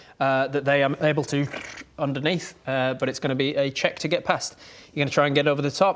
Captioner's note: brrr